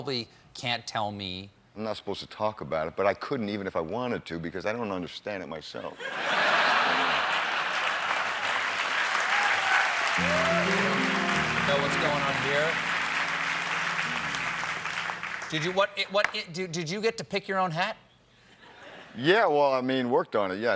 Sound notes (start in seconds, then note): 5.9 laughter; 7.0 applause